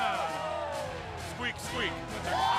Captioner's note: crowd cheering